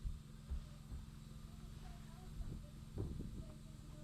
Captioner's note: footsteps; footsteps